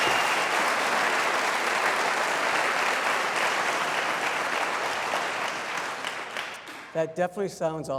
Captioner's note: applause